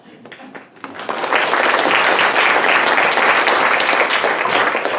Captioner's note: audience applauding